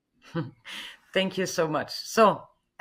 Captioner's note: laughs